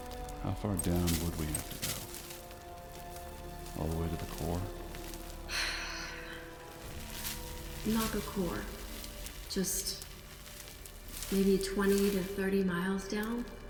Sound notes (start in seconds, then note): 5.4 exhaling